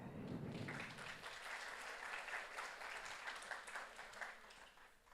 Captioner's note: audience applauds